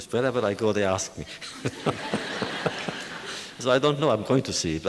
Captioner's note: laughter